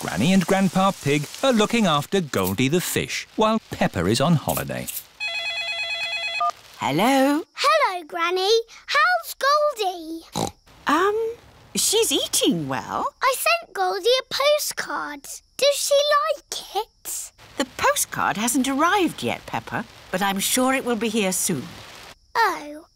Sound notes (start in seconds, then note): 5.2 phone rings; 10.3 snorts